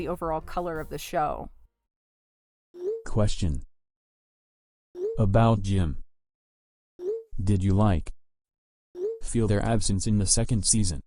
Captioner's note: text to speech voice